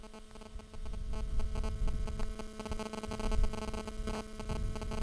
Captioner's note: electronic feedback